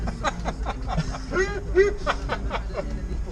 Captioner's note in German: lustiges Lachen